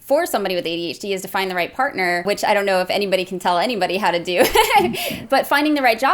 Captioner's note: laughs